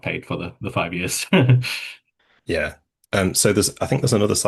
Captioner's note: chuckles